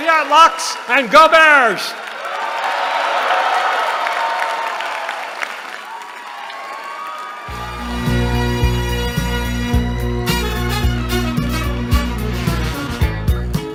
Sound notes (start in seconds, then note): 1.9 cheering; 7.5 upbeat music